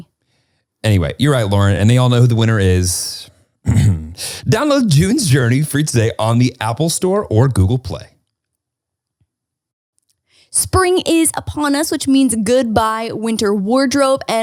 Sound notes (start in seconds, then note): 3.6 clears throat